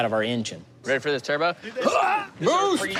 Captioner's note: grunts